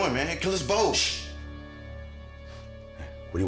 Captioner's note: Brown shushing